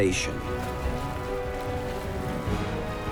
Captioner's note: water lapping